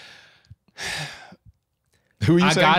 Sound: Link sighs

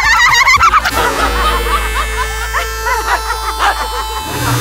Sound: laughing accelerates; horn blares; all laugh hysterically

